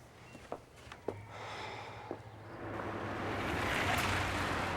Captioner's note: Kevin sighs